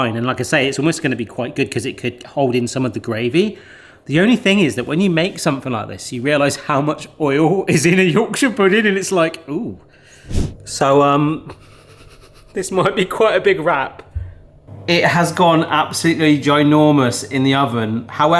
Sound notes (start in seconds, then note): 10.2 screen whooshing